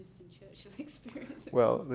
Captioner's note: laughing